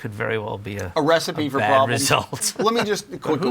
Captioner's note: laughs